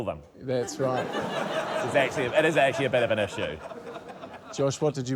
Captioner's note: laughter